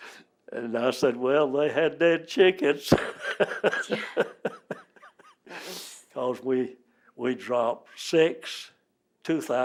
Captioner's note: laughs